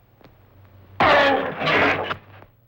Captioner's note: roar